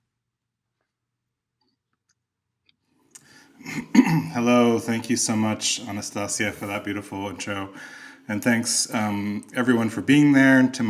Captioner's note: clears throat